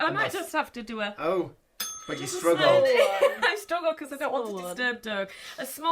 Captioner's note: ding